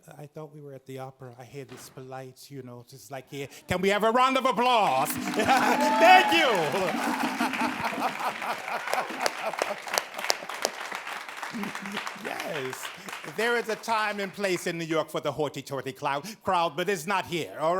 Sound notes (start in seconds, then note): 5.5 audience claps; 5.5 laughs; 7.4 laughs